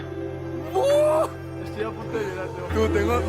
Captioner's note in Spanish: grita